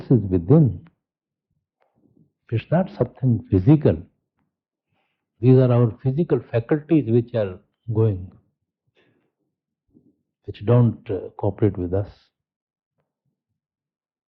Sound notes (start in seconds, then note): 1.3 laughing?